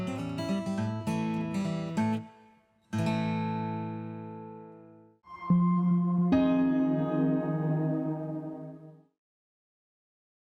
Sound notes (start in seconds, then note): 5.3 electronic tones echo